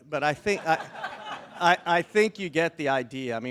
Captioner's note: attendees chuckle